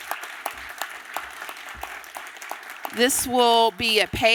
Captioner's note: applause